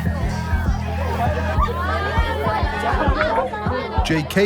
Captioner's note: laughter, and background chatter